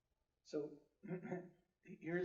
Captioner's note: clears throat